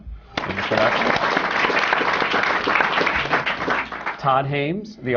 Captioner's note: applause